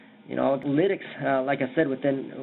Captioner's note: audio breaks